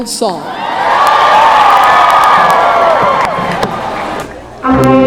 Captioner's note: cheering